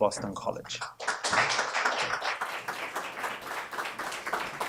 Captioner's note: applause